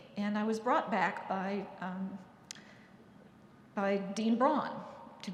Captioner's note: none